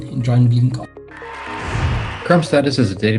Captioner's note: cheering